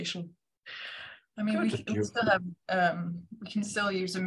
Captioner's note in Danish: Everyone speaks